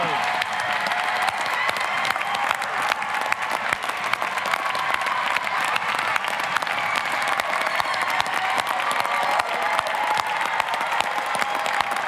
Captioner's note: applause, cheering